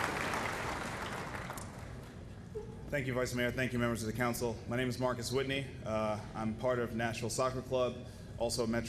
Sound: applause

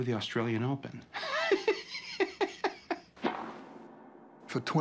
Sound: laughs

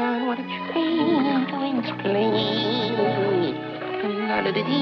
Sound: humming

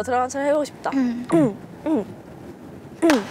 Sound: suddenly clears his throat

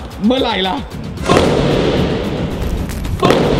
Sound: boom!

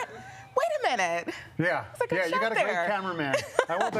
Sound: laughter

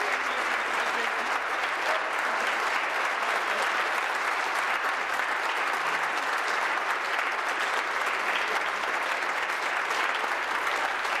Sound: applause; cheering

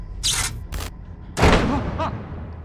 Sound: door slams shut

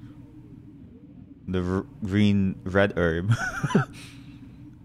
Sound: laughs

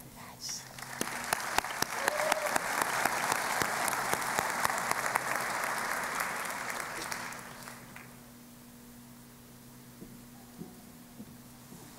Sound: applause

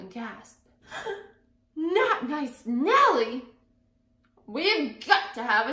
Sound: gasping

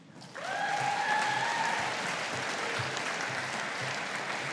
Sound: audience applauding

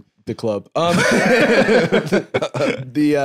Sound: both laughing

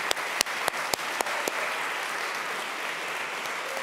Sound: audience claps

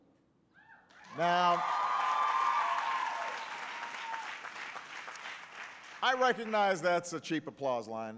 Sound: applause

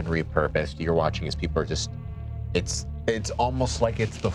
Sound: none

